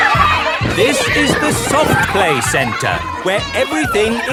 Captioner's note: loudly over shouting